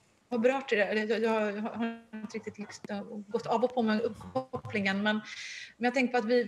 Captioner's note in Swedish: störning i uppkopplingen